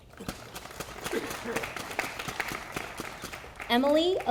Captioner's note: audience applauding